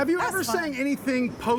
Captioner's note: laughing